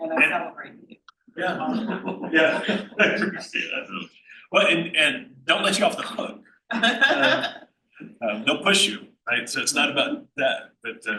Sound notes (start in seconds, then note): 1.4 laughs; 6.7 laughs